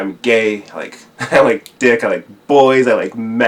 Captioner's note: chuckles